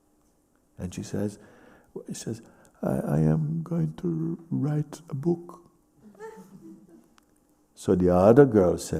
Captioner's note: laughter